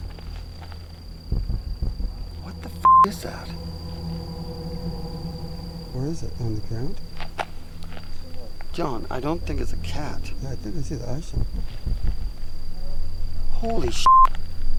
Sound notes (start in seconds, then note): 0.2 suspenseful music; 2.8 beep; 4.3 tender suspenseful music; 8.1 tender suspenseful music; 12.5 tender suspenseful music